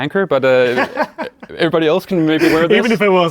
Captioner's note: men laugh